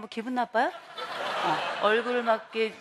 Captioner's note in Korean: 웃음